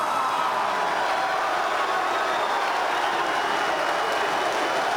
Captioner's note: crowd cheering